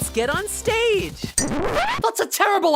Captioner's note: record scratch